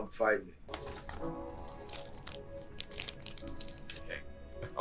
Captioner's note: bag crinkling